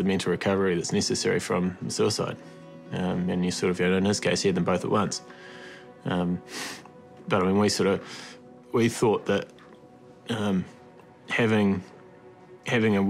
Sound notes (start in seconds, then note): 6.5 sniffles